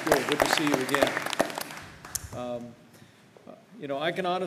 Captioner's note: applause